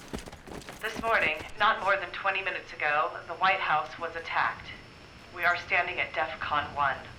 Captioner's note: woman: On radio